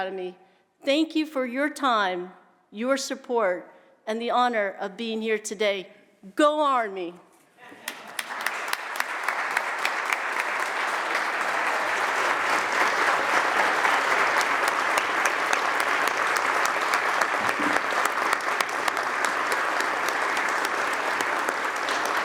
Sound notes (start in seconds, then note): 5.7 applause